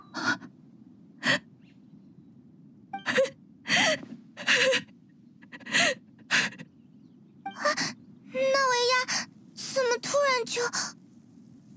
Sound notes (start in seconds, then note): 3.0 sobbing